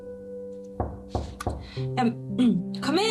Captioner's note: knock on the door